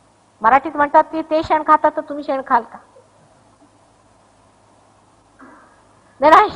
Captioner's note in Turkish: Marathi'de konuşur